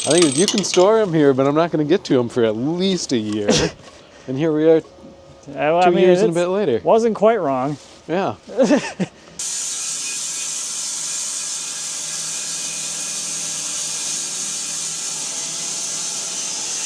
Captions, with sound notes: - I think if you can store 'em here, but I'm not gonna get to 'em for at least a year. And here we are, two years and a bit later. - I wasn't quite wrong. - Yeah. (saw buzzes)